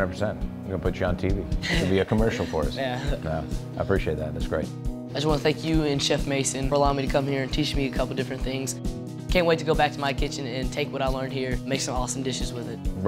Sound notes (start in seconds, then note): 1.6 laughs